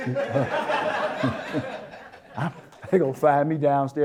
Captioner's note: audience Laughter